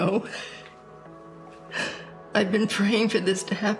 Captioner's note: sniffling